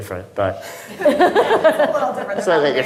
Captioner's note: audience laughing